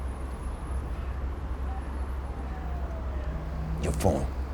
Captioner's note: police sirens blaring